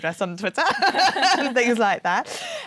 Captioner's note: laughter